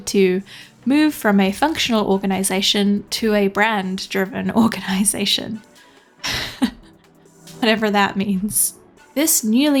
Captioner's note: laughing